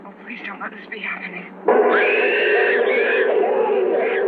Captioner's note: screaming